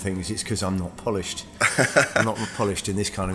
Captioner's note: laughs